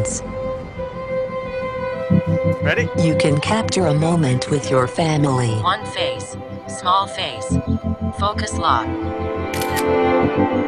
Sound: camera shutter

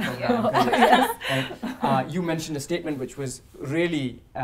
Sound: laugh

